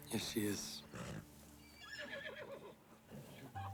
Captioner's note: horse whinnies